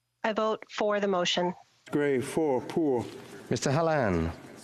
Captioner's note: speaking FRENCH